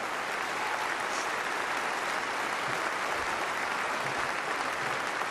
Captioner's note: applause